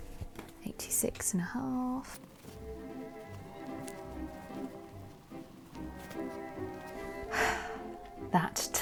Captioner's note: sighs